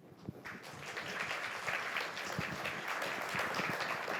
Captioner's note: applause